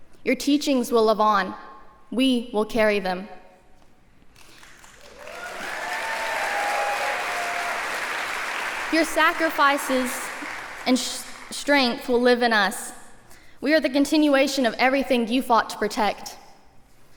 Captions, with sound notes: Your teachings will live on. We will carry them. [APPLAUSE] Your sacrifices and strength will live in us. We are the continuation of everything you fought to protect.